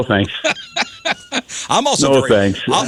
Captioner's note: laughing